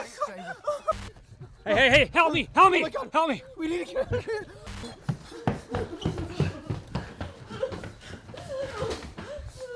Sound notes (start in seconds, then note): 0.9 Crujidos estáticos; 3.4 mujer sollozando; 4.8 crujidos estáticos; 4.9 golpeteo de pies